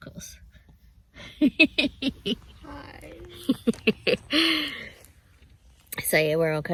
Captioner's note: sleepily; chuckles